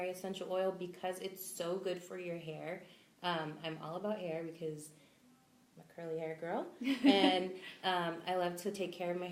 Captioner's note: laughs